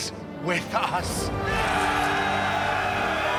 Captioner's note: cheering